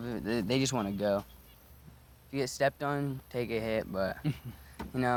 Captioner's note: chuckles